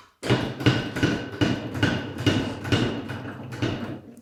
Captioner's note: metal banging